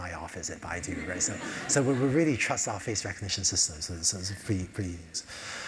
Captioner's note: laugh